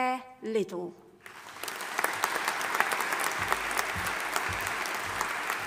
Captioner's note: audience applauding